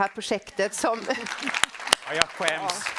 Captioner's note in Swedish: Applåder från publiken